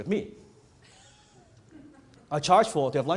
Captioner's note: audience member laughs